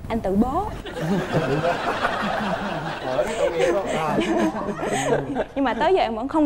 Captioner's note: laughing